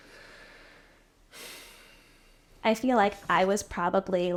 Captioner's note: sighing